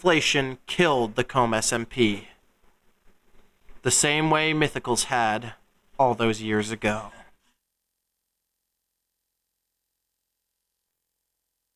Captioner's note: pause